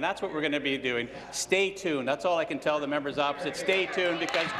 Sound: applause

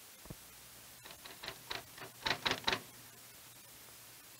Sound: keyboard clacking

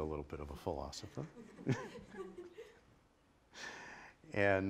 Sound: laughter

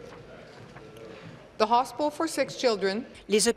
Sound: speaking in French

